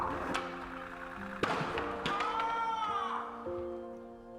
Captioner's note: loud crash followed by yelling off screen; loud crash followed by yelling off screen